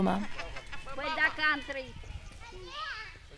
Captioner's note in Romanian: indistinct chatter